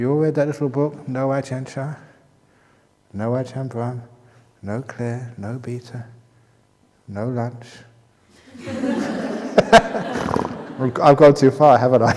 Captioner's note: laughter